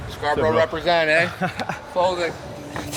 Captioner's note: laughs